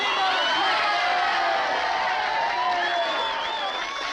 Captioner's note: crowd cheering